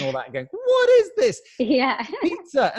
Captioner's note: chuckles